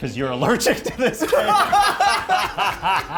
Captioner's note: everyone laughing